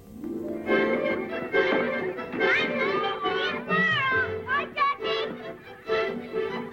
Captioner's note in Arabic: موسيقى مبهجة; صراخ الأطفال